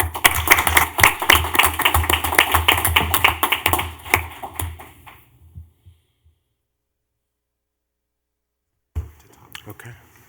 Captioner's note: clapping